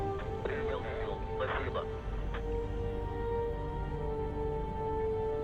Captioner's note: Dmitry speaking in foreign language; Bob speaking in foreign language